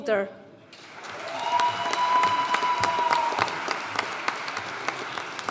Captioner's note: audience cheering and applauding